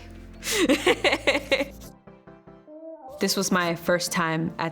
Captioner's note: laughs